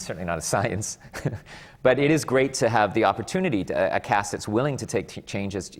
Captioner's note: laughs